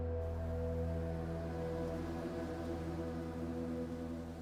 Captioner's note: leaves rustling